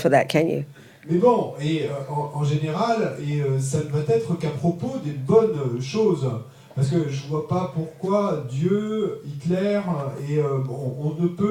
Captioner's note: French